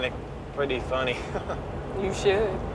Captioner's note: chuckles